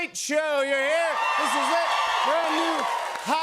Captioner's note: cheers and applause